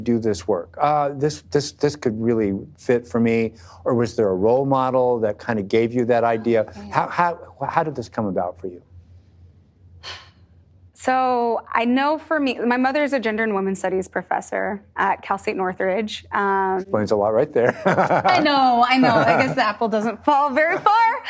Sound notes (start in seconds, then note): 10.0 deep sigh; 17.6 laughing